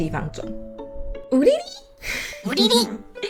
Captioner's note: playful yelp